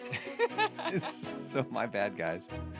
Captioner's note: laughing